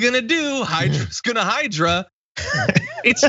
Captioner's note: laugh